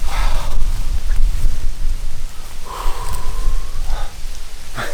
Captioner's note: panting